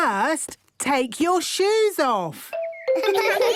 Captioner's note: giggles